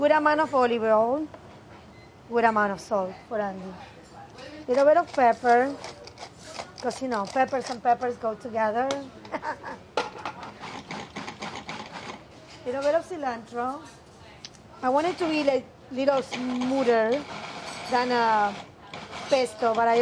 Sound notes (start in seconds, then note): 9.2 laughs; 11.0 food processor pulses